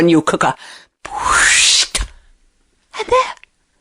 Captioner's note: whooshing noise